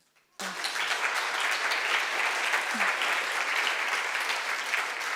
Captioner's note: applause